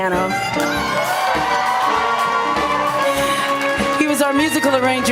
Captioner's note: applause